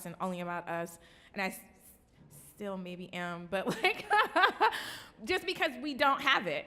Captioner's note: laughing